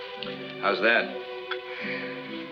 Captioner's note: sighs